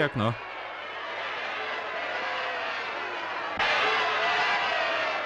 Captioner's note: crowd shouting